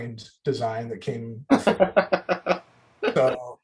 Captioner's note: laughs